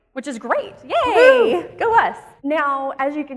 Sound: whoops

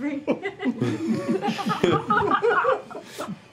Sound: just laughing

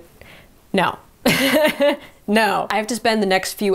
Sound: chuckles

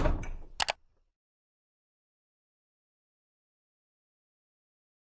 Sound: computer mouse click

